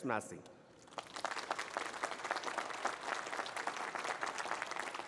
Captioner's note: applause